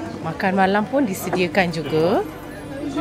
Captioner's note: none